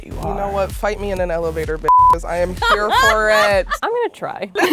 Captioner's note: beep